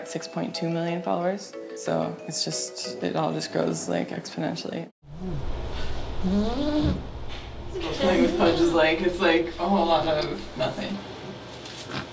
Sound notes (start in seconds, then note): 6.2 Pudge wheezes